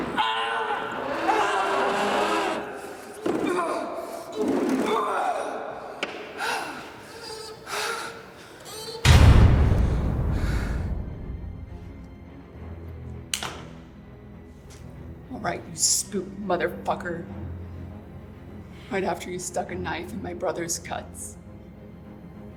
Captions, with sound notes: (Sanford grunting) (Sanford breathing heavily) (tense music) - All right, you spook motherfucker, right after you stuck a knife in my brother's guts,